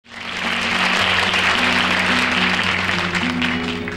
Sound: audience clapping

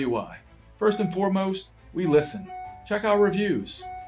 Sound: uplifting orchestral music; text bubbles ding

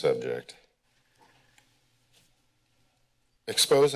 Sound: silence

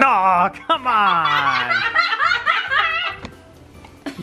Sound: laughing

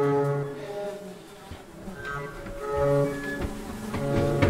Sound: flies buzzing

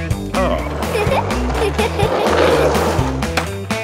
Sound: giggles

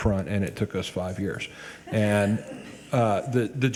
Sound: people chuckle

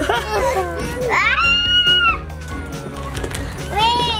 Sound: scream

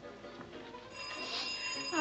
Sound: doorbell

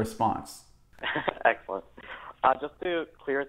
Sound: laughs

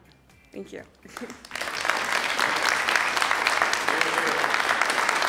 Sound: audience applauding

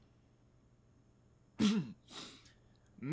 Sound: MR. PRODUCER clears throat

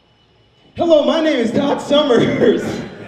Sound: audience laughs; laughs

